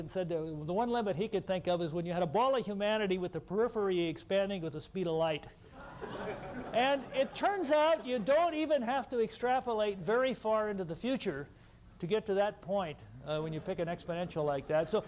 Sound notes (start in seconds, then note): 5.7 laughter